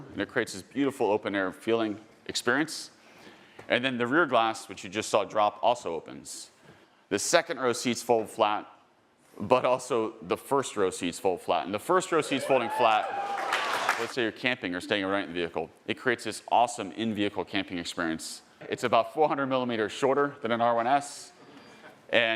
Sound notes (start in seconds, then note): 12.2 audience cheering